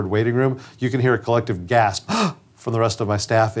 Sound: gasps

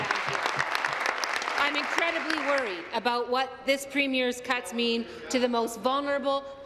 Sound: applause

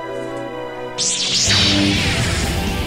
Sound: lightsaber activates

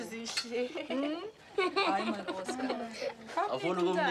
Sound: boy laughing

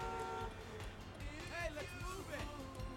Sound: horn honks

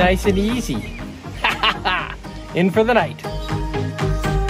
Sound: laughing

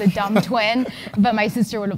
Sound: laugh

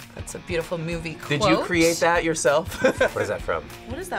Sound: laughs

